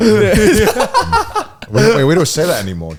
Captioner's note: all laugh